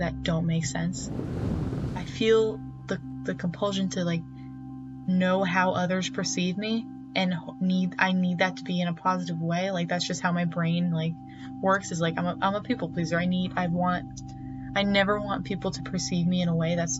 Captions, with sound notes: I have always worried about things that don't make sense. [wind gusting] I feel the compulsion to like, know how others perceive me and I need that to be in a positive way. That's just how my brain works, is like... I'm a people pleaser. I need... I want...